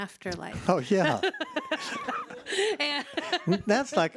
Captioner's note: laughs